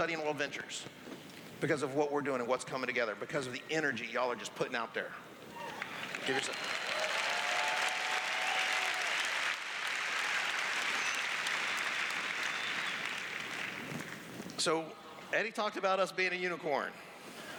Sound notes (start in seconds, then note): 7.4 applause; 8.7 cheers